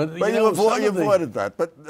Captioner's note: laughter